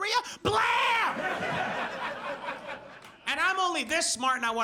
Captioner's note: audience laughs